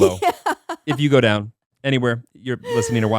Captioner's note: laughing